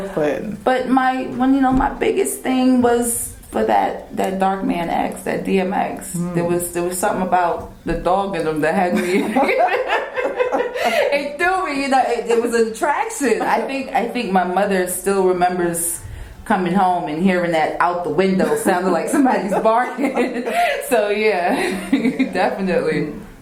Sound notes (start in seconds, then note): 9.0 laughing